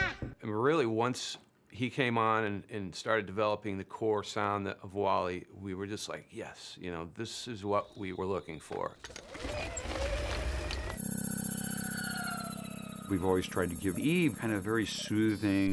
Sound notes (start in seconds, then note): 9.0 whirring; 10.8 melodic whirring